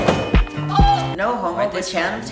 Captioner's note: yell of pain